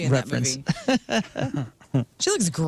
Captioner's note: laughing